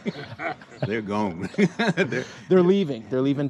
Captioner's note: men laughing; laughing